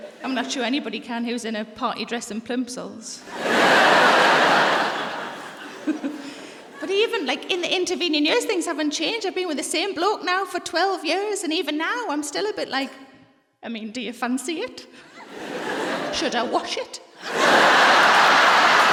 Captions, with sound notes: I'm not sure anybody can who's in a party dress and plimsolls. (LAUGHTER) (LAUGHS) But even in the intervening years, things haven't changed. I've been with the same bloke now for 12 years and even now I'm still a bit like, "I mean, do you fancy it? - Should I wash it?" - (LAUGHTER)